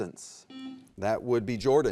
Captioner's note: buzzer beeps